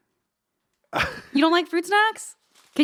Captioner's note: chuckling